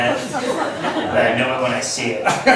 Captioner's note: laughs